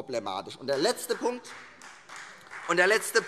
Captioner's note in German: Beifall